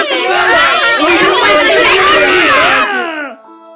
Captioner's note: lots of angry yelling; sad violin music